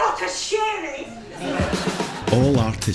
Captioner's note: audience laughs